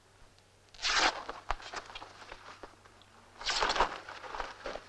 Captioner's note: fabric ripping